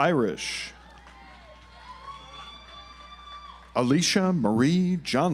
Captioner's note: audience applauds